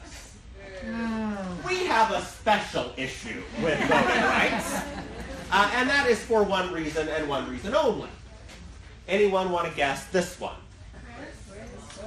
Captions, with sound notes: In Kansas, we have a special issue with voting rights. (laughing) And that is for one reason and one reason only. Anyone want to guess this one?